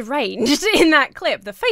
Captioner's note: laughs